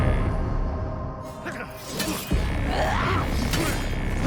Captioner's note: dramatic music; grunting